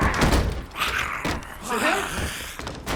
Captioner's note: zombie snarling